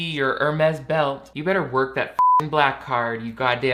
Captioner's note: beep